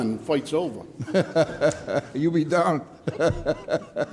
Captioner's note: laughing